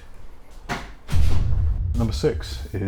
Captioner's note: exploding sound